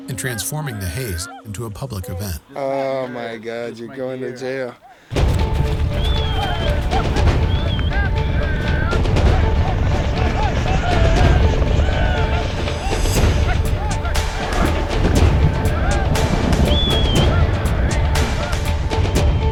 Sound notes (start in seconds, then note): 5.2 fast tempo music; 7.0 men whistling; 9.6 helicopter blades whirring; 11.0 men shouting